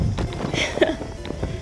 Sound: chuckle

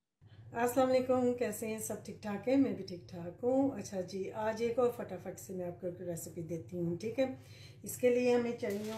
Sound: non-english speech

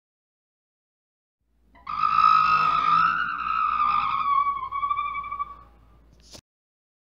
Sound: sound of squeak

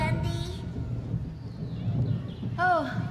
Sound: thunderclap!

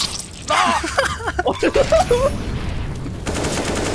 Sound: laugh

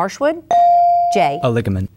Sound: bell dinging

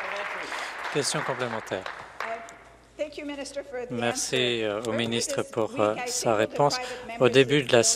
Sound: applause

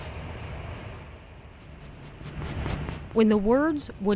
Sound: pencil scratching

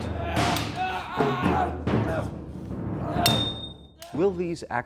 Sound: intense percussion music; screaming

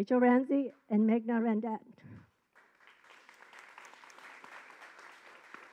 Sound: audience applause

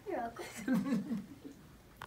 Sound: laughing

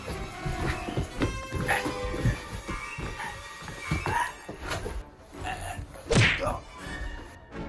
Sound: even more choking sounds

